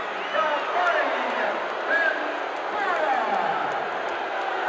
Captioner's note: crowd boos